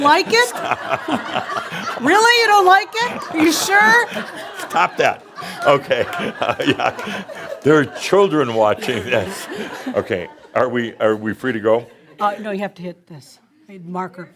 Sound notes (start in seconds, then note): 1.7 laughter; 4.0 more laughter; 6.2 Adamus laughs